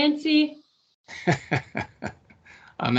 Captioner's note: laughing